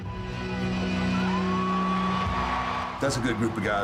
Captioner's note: audience cheering